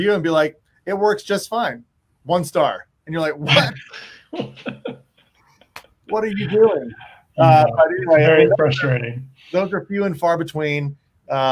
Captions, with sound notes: and be like, it works just fine. One star and you're like what... (laughs) What are you doing? - Yeah, very frustrating. - Those are few and far between